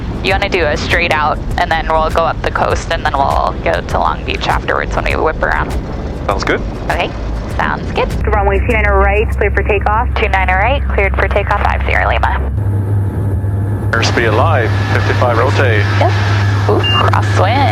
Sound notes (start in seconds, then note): 12.6 plane engine whirring